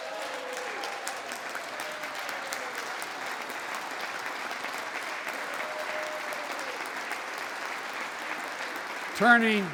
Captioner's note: applause